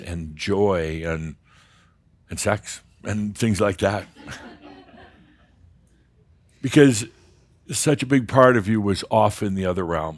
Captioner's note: a few chuckles